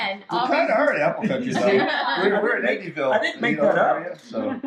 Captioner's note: group talking and laughing at once